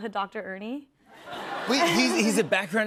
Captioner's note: laughter